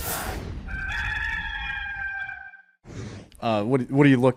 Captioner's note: rooster crowing